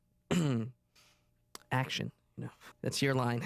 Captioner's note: clears throat